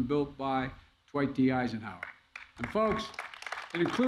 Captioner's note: applause